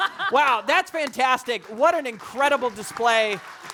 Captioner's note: audience applauding